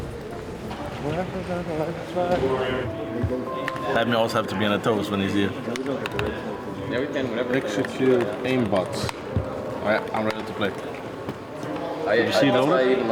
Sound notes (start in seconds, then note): 1.0 speaking faintly